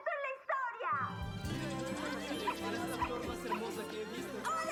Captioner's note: chattering